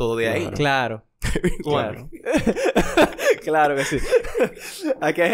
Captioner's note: laughs